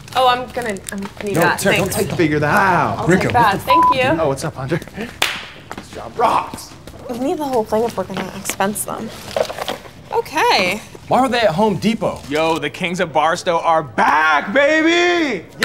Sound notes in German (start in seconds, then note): 3.6 Piep